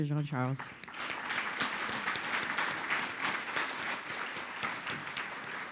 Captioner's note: audience applauding